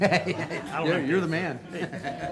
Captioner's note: people laughing